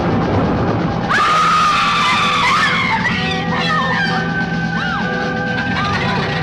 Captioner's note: suspenseful music; women screaming